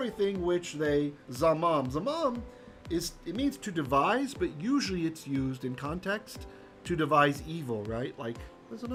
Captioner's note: Hebrew